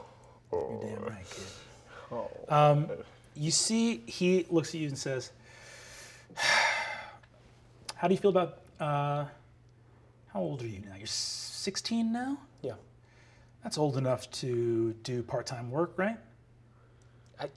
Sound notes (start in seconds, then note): 0.3 groans sadly; 6.3 sighing